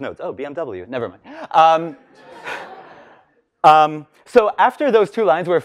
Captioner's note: laughs